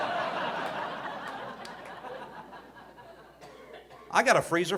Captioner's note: audience laughing